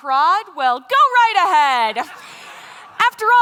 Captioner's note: laughter